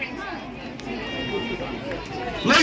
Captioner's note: vuvuzela horn